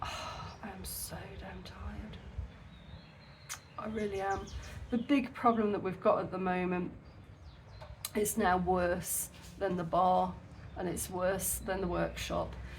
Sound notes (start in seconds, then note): none